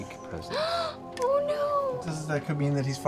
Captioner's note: gasp